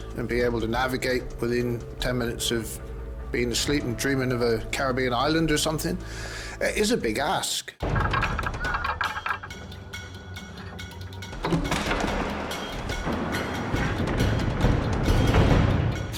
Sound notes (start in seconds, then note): 7.8 tense music; 7.8 equipment rattling